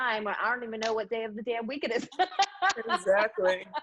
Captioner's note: laughs